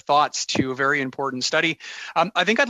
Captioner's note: speaking French